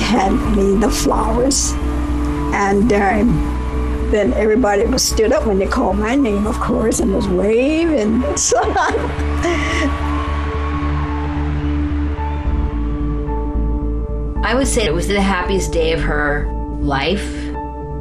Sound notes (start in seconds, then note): 2.6 soundbite of archived recording; 8.3 laughter